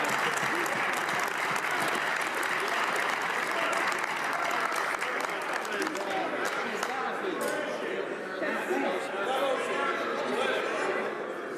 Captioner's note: some Applause